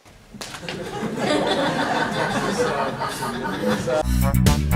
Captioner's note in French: rires